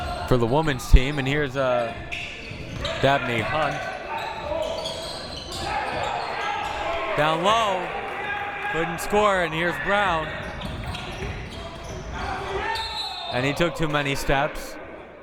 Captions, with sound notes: For the women's team and here's Dabney Hunt. Down low, couldn't score and here's Brown. (whistle) And he took too many steps.